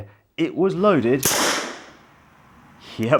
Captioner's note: gun fires